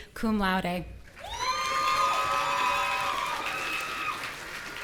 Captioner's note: audience cheering